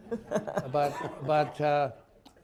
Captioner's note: laughter